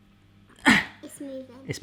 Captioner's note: grunts